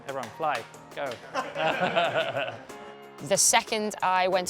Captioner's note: laughing